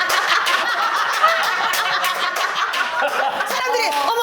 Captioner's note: audience bursting into laughter